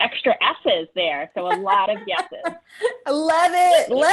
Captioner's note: laughing